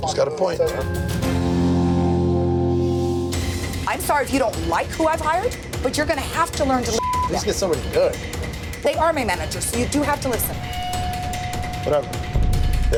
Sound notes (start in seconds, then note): 1.2 dramatic music; 6.9 beep